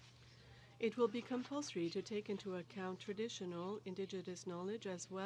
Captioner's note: speaking french